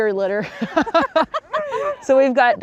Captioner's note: women laughing